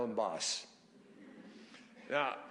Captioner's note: laughter